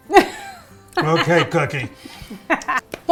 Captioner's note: they laugh